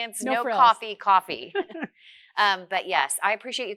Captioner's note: laughs